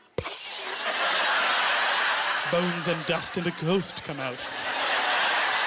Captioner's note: coughing